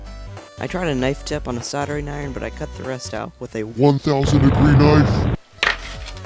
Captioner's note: explosion